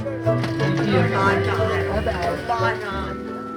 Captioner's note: indistinct chatter